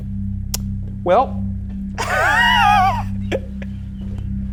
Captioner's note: laughs